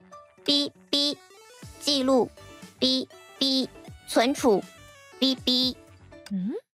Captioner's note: beep... storage... beep... record... beep